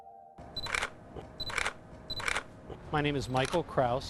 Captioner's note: camera clicking